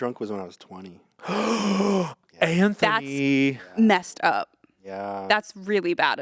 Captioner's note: gasps